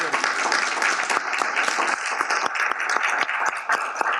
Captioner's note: audience applauds